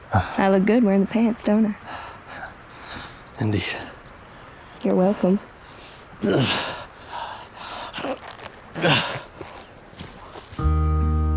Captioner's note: sighs; panting